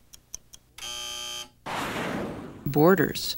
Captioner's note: buzzer